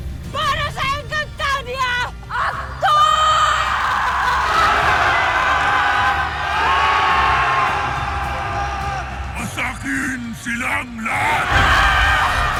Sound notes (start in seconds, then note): 2.3 screaming; 3.1 theme music playing; 10.8 clamoring; 11.1 screaming